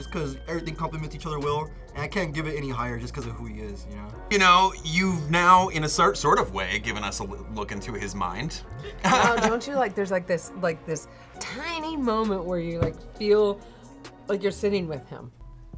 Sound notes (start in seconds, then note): 8.8 laughs